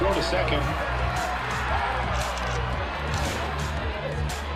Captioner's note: crowd cheers; upbeat music